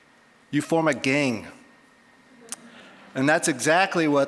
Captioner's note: audience laughing